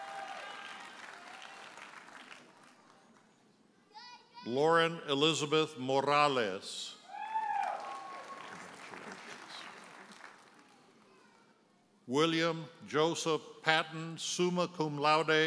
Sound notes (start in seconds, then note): 0.0 audience cheers and applauds; 3.9 toddler shouting; 7.2 audience hollers and applauds